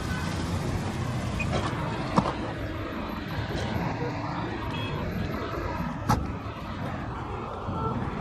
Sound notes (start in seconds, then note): 1.3 engine stops; 1.4 car door opening; 6.0 car door closing